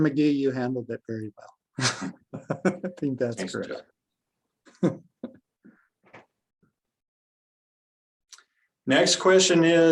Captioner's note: laughs